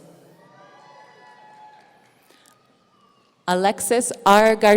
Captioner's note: audience cheering